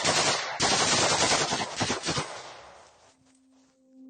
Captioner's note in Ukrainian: звуки автоматної стрільби